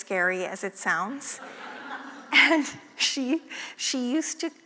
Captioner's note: laugh